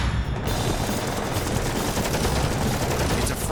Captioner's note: shooting